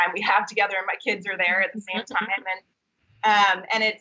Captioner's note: laughing